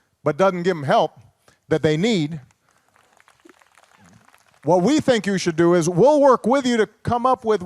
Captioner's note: applause